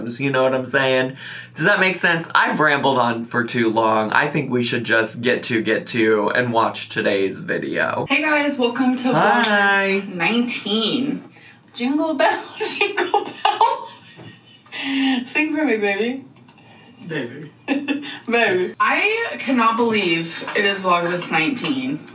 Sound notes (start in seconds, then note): 12.5 laughs; 17.0 laughs